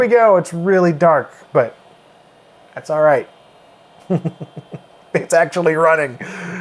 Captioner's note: chuckles